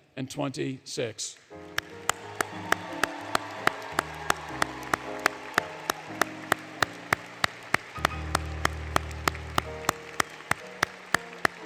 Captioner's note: applause, Music